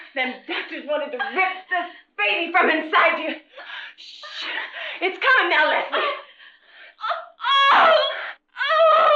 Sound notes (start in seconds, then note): 3.9 shushing softly; 6.9 Leslie yelling